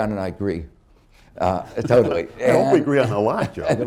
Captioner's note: laughter